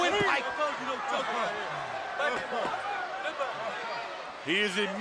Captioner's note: crowd chatter